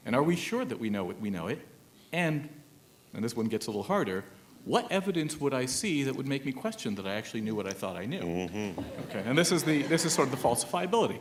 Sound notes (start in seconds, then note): 8.7 laughter; 9.3 mhmm